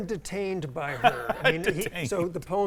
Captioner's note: laughs